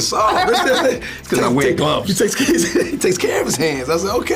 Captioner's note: laughing; laughs